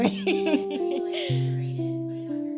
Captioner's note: laughing